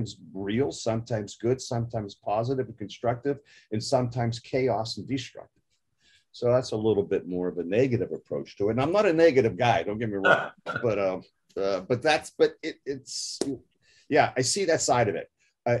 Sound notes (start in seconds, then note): 10.2 laugh